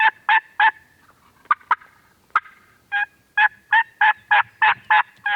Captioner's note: turkey gobbling